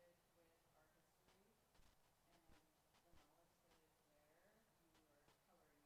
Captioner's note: speaks faintly